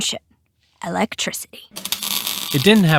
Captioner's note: sound of sparks